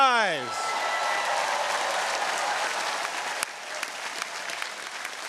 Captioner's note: audience cheering